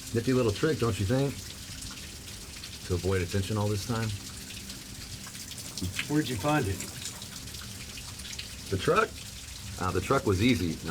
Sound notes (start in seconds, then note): none